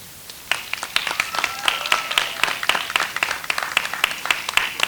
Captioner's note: audience applauds